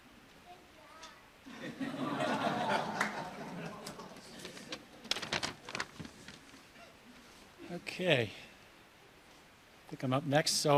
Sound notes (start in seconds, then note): 4.1 audience laughs